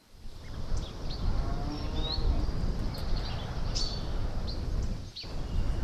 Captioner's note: nature sounds